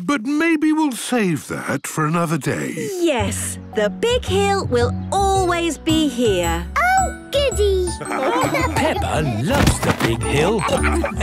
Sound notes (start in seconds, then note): 7.9 laughing